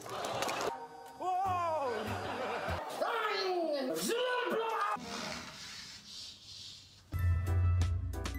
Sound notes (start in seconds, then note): 1.8 laughs; 3.2 noise of pain; 3.9 second noise of pain